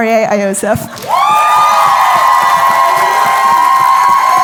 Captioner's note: cheering, applause